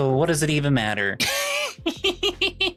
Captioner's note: laughs